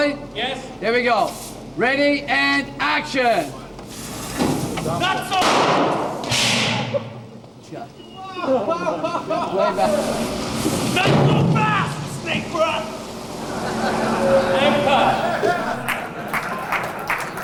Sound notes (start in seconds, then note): 7.3 explosions; 8.1 crew laughing; 12.7 explosions; 13.3 crew laughing; 15.8 applause